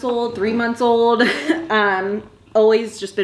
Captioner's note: chuckles